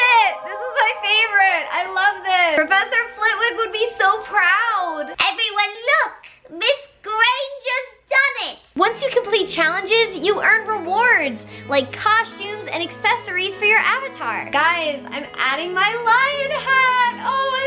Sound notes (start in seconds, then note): 5.4 imitating Flitwick